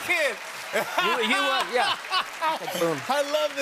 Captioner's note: applause